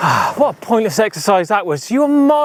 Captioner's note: sighs